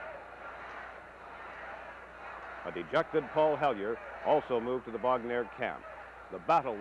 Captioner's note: crowd noise